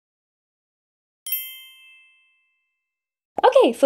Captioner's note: gentle chime jingling